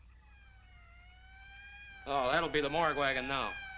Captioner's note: sirens wailing